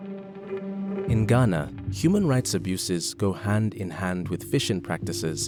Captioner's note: voiceover